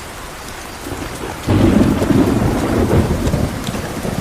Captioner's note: thunder rumbling